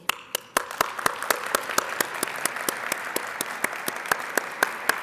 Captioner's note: audience applauding